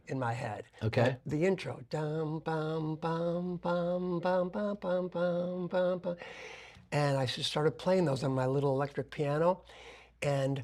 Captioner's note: humming